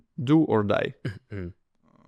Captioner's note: clears throat